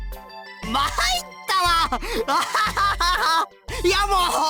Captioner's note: laugh